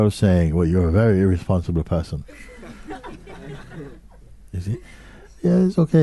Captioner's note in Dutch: gelach